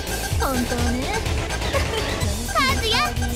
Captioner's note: giggle